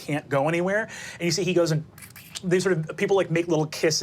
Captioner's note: kisses